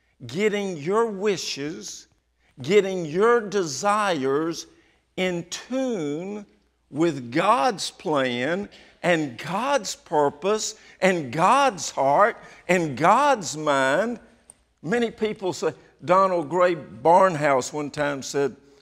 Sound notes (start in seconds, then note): none